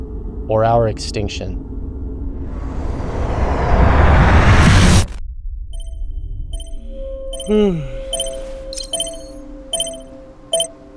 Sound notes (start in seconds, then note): 2.8 suspenseful music; 5.7 alarm beeping; 7.4 yawns